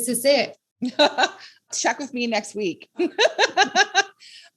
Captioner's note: laughs